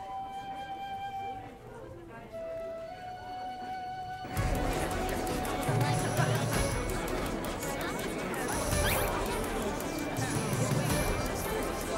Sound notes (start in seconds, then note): 3.6 crowd chattering indistinctly